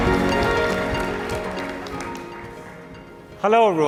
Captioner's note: applause